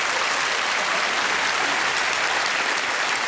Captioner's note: applause